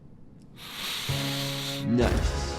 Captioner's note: Cuddles inhaling